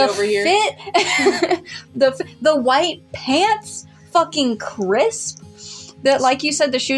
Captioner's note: laugh